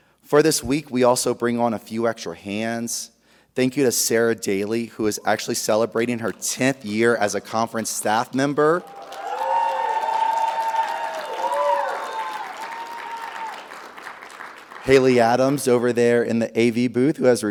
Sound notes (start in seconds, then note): 8.6 audience applauding; 8.7 audience cheering